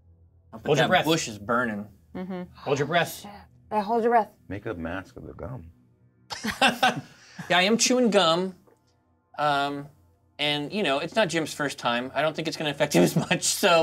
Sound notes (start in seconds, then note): 6.3 co-hosts laughing; 13.4 laughs